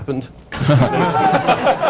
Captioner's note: laughter